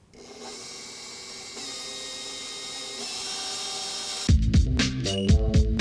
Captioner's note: blender motor whirring; energetic electronic music